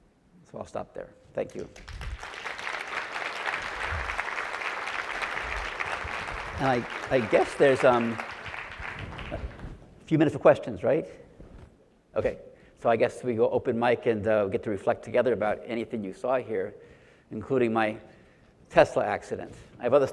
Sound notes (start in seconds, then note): 1.7 audience applauds